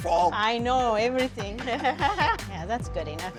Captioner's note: laughing